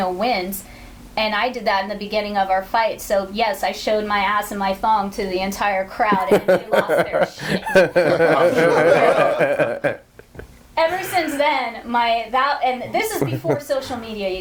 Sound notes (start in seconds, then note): 8.5 all laughing